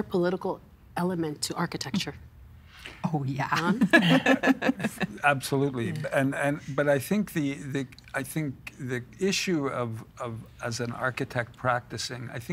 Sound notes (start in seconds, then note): 3.7 all laughing